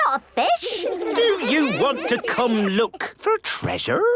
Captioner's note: children giggling